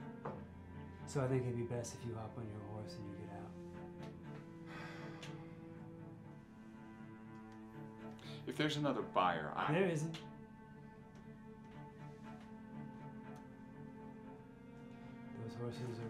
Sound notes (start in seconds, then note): 4.6 Graham sighs; 11.8 tense orchestral music continues